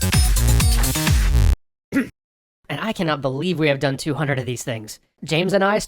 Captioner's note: clears throat